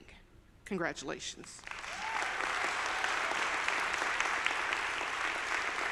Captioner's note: audience applauding